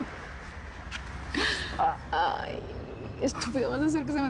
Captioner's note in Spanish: Risas